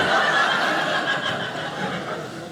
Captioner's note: audience laughing